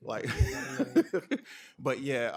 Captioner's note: laughter